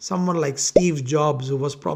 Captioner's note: bubble popping